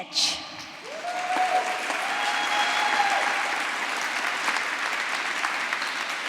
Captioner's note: applause